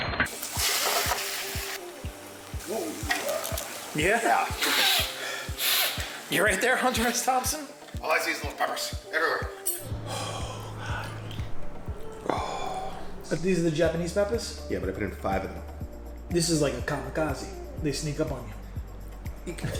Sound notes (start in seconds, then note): 0.2 food sizzling; 4.6 sniffling